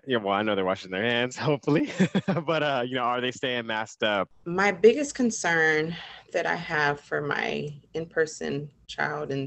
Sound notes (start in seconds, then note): 2.1 laughs